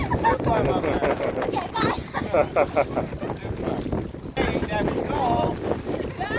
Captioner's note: laughs